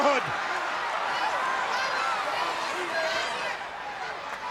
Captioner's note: crowd shouting